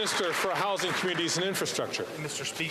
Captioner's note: some Applause